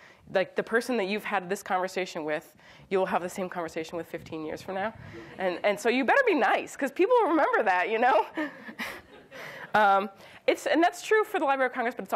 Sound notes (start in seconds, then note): 5.3 audience laughs; 8.6 audience chuckles